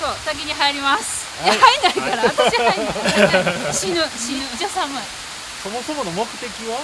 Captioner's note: laughter